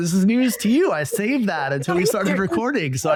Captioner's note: laughs